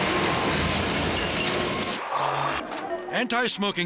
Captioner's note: dramatic music; train crashes; logo whooshes